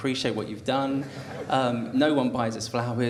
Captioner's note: audience laughter